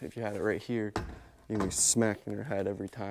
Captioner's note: speaker thumping